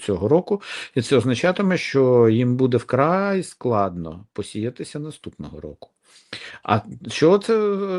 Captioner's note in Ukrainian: сопіння